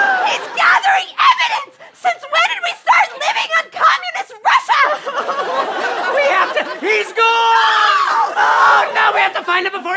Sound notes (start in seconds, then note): 5.4 crying; 7.4 screams